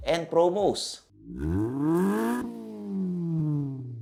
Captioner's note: engine revs